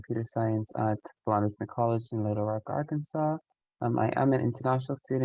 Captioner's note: voice muffling